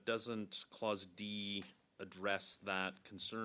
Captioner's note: speaking French